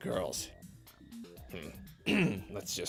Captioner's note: clears throat